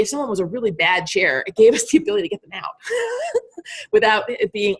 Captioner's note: laughing